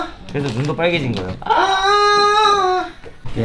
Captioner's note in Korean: 꺄아